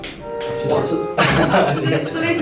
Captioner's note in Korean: 웃음소리